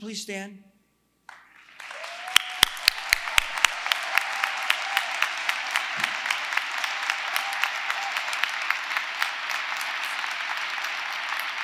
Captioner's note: applause